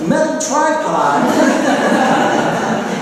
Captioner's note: laughter